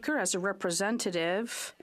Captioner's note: speaking French